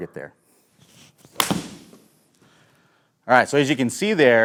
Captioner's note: club smacking